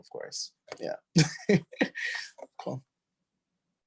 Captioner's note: laughs